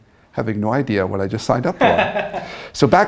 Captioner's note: laughs